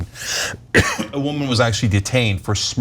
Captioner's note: cough